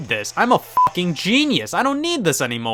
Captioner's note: beep